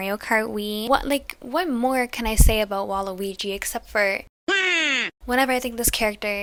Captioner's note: wahhh!